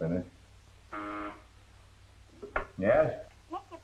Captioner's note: buzzer rings